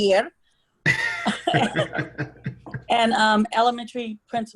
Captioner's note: laughing